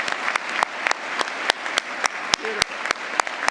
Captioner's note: applause